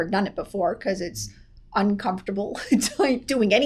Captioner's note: laughs